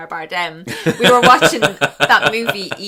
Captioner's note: laughs